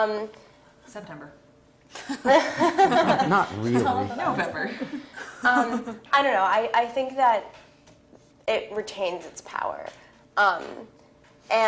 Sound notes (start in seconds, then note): 2.3 laugh